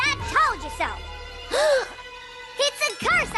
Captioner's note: both gasp